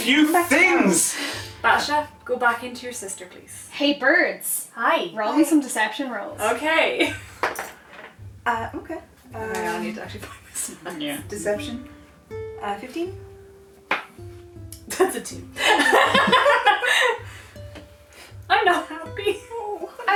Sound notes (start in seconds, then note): 7.5 dice rolling; 15.6 laughter